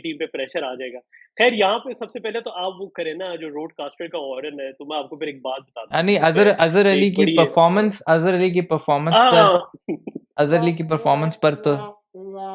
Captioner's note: funny sound